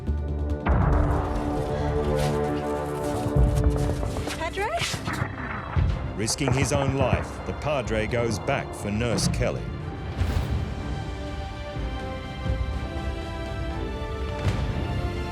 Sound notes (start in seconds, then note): 0.6 explosions continue; 0.6 ominous music; 10.4 uplifting music; 12.1 explosions